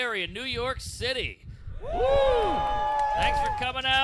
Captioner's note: cheers and applause